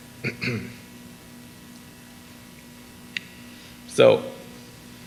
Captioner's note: clears throat